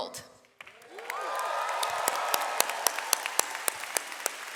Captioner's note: audience applauds